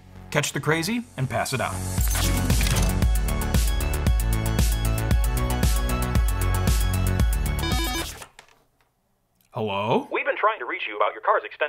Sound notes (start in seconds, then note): 0.7 upbeat electronic music; 7.6 phone ringing